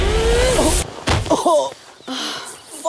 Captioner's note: Blubbering